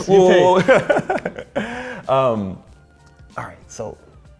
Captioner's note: laughs